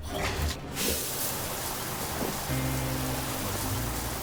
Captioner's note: water splashing; soft music